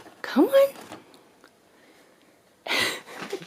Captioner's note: laughs